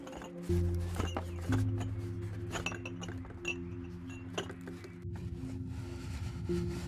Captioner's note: low suspenseful music; birds chirping